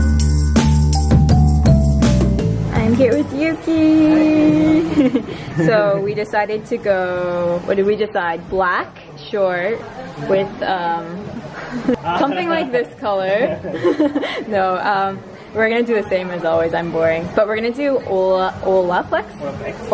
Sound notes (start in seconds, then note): 4.7 both giggle; 11.4 laughs